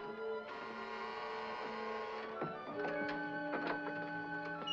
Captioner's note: door opens; ominous sentimental music; door bell buzzes; door opens